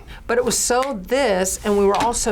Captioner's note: snaps fingers